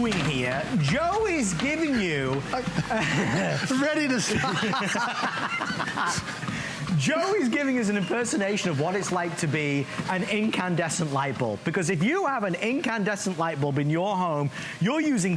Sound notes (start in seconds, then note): 5.3 laughter